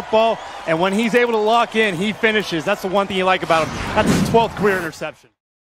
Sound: woosh

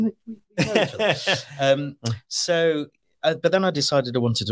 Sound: laughs

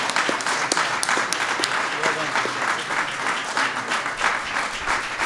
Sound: applause

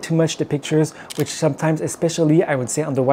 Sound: camera clicking

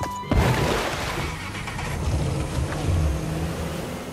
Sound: water splashes

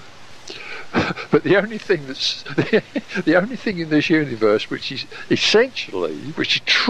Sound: chuckle

